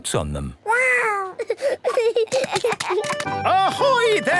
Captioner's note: giggling